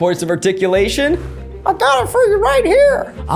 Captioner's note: high pitched voice